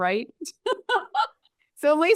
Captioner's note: laughs